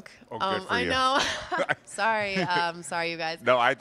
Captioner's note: chuckles